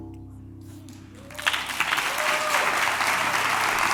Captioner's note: applause